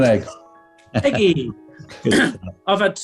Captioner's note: chuckling